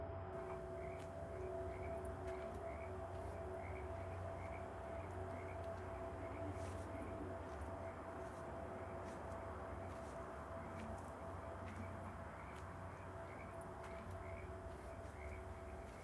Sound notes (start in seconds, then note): 0.7 frogs croaking; 0.7 suspenseful eerie music